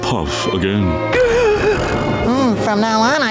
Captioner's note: gasping